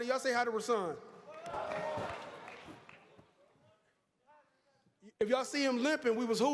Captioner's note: applause